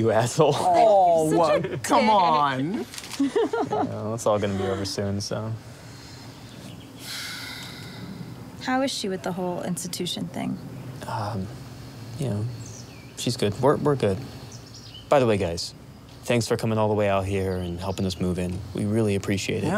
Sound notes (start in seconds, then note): 3.1 laughter; 7.0 sighs